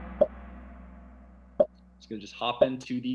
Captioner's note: gong; popping